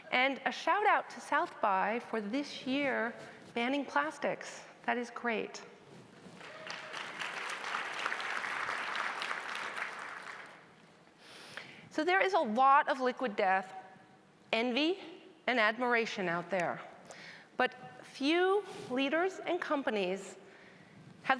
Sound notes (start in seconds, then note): 6.4 audience applauding